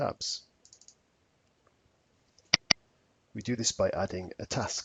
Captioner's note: mouse clicking